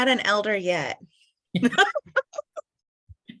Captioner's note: laughter